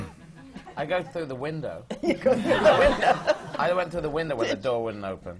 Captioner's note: laughter